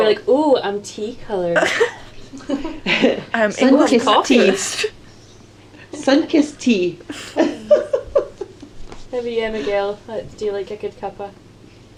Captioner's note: laughter; laughter